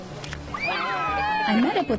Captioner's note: cheers